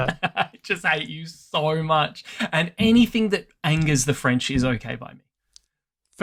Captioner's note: laughs